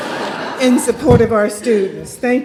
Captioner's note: laughter